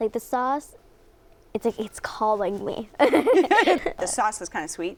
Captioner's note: both laughing